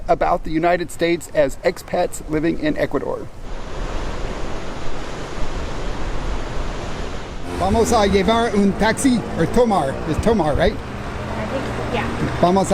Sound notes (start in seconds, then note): 3.3 waves crashing